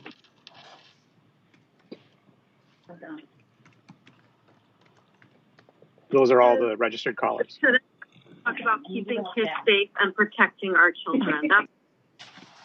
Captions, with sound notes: >> THOSE ARE ALL THE REGISTERED CALLERS. [ DISTORTED AUDIO ] >> THIS CONCLUDES PUBLIC PARTICIPATION AT 1:21.